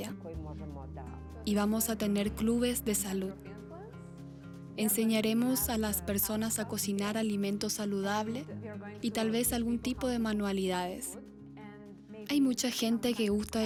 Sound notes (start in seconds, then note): 3.5 Hablando idioma extranejero